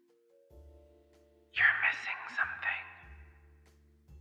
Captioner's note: whispered